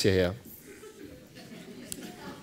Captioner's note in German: Lachen